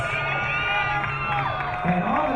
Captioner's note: crowd cheering